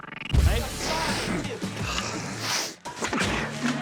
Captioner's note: blowing noses; sniffing; sneezes